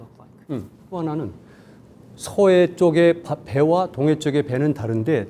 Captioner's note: speaking in Korean